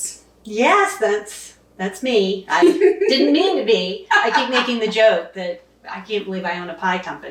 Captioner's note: laughing